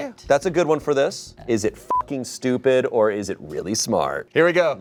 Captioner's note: beep